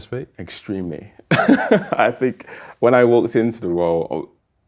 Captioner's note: laughing